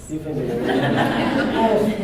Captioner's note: laughter